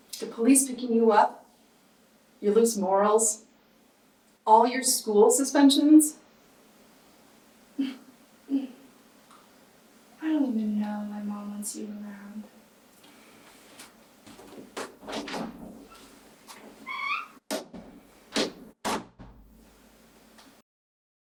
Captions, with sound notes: The police picking you up, your loose morals, all your school suspensions. [Hannah chuckles] - I don't even know why my mom wants you around. [door opens] [door creaks] [door closes]